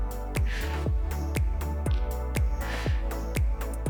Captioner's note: exhaling